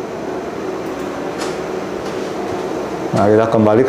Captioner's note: clicking sound